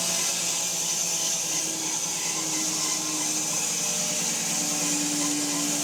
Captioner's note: saw buzzing continues